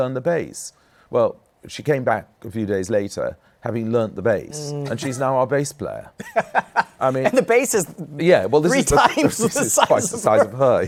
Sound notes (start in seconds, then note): 6.2 laughs; 8.7 laughing